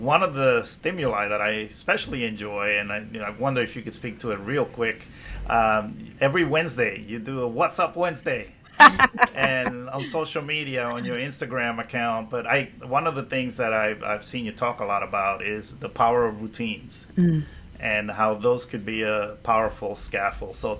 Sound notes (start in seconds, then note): 8.7 laughs